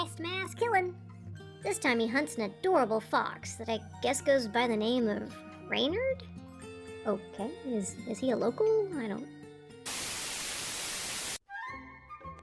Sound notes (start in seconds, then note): 9.8 static sounds...OF DOOM!!!